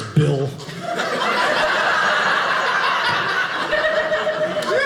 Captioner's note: audience laughing